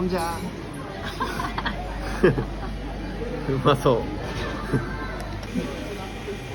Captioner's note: laughs